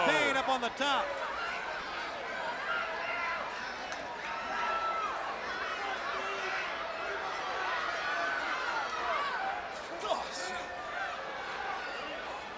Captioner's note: crowd chatter